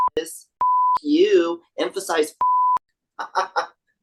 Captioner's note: beep; beep